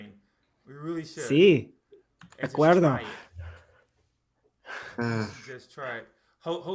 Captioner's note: speaking spanish